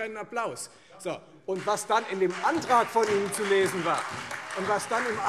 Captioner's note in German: Beifall Freie Demokraten, AfD und vereinzelt SPD